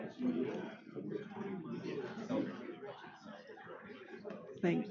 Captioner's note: crowd murmurs